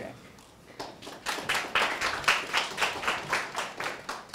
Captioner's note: applause